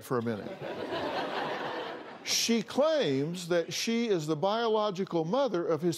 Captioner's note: laughter